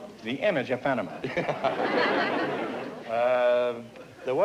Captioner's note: laughter